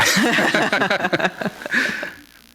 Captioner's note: laughter